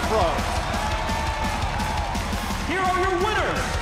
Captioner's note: crowd cheering